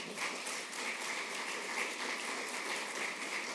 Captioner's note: applause